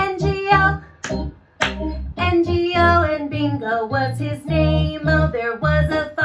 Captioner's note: clap, clap